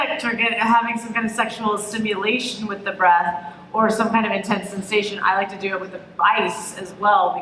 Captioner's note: none